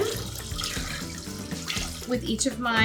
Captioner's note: liquid pours